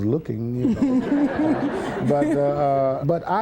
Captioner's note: laughter